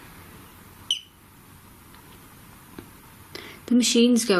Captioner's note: beep